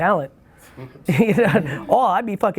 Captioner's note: laughs